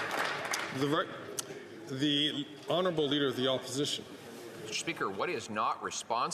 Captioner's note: some Applause